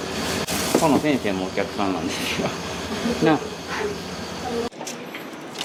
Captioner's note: laughs